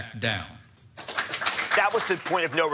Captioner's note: audience applauds